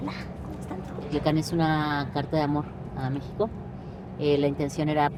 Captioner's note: speaks Spanish